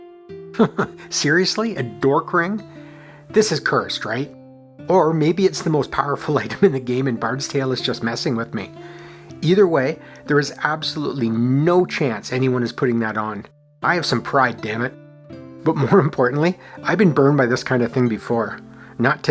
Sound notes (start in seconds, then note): 0.5 chuckles